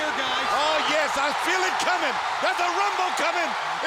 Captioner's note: audience cheering